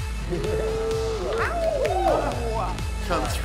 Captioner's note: group cheering